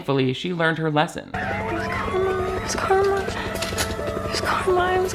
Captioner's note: siren wailing